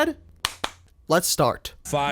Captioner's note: clap